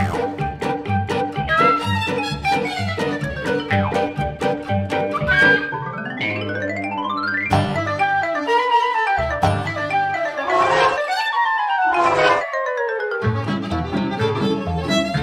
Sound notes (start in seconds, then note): 0.0 lively music; 10.4 dragging noise; 12.6 lively music